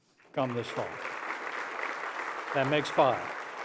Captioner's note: applause